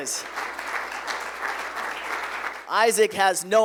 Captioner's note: applause